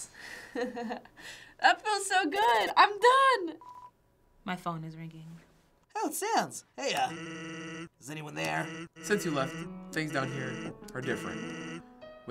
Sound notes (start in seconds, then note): 0.2 laughing; 2.4 phone ringing